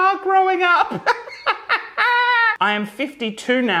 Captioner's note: laughing loudly